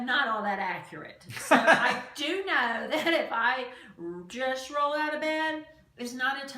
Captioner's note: laughs